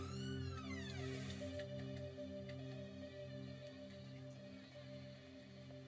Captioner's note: door creaking on TV show